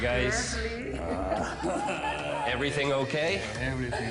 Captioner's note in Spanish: Risas